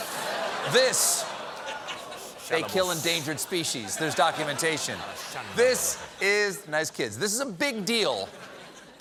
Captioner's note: laughter